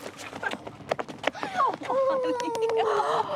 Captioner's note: both laughing